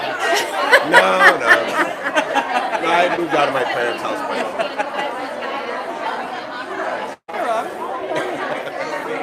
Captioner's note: laughter